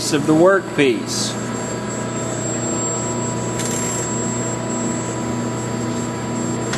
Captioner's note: machine whirring